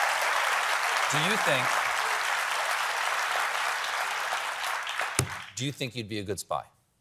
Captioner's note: applause